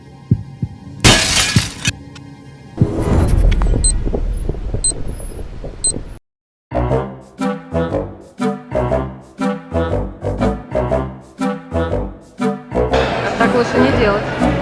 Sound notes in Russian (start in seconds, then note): 0.0 биение сердца; 1.0 звук разбитого стекла